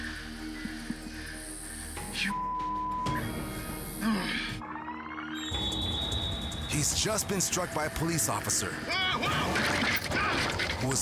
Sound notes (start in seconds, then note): 2.3 beep; 3.9 groans; 4.9 rewinding sound; 9.1 bicyclist shouts; 9.1 cycle falls